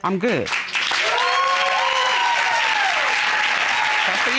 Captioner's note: cheering